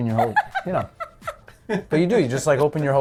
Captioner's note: Lea laughing